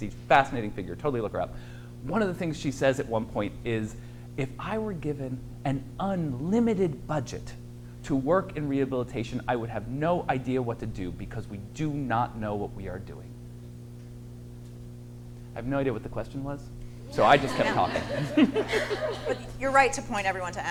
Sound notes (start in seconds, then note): 17.1 audience laughs; 17.1 laughs